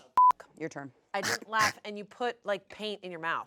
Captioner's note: beep; retches